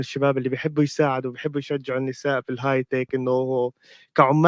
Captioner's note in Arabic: لغة أجنبية